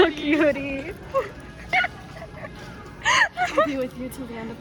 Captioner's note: laughing